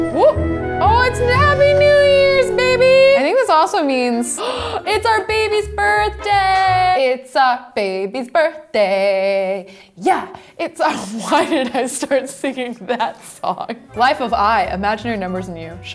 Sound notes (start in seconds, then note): 4.3 gasps